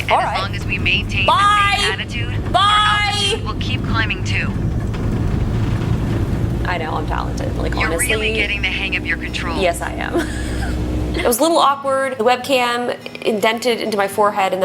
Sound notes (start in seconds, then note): 5.6 engine speeds up; 9.9 laughs; 11.3 lighthearted guitar music